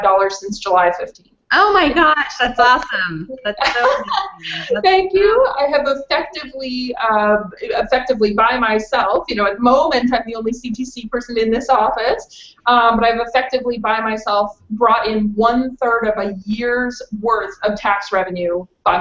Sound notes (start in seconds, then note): 3.4 laughs